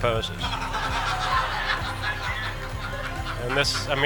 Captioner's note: laughing